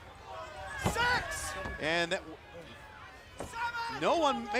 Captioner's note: crowd chatter